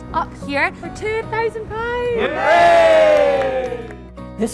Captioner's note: cheers